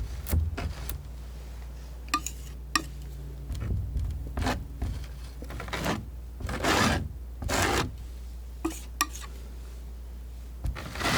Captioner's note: tapping